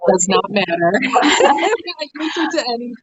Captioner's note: laughing